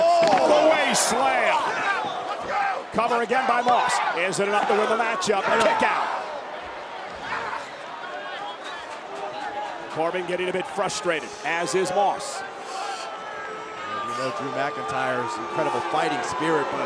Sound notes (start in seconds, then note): 6.6 crowd chattering; 13.5 crowd booing